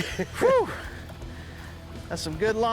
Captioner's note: laughs